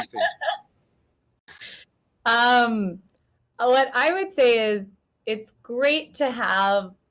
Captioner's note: laughs